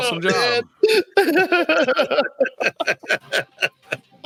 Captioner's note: laughs